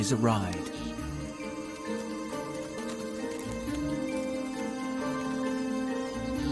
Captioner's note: insects buzzing; tense music continues